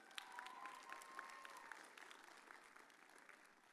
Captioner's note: audience cheers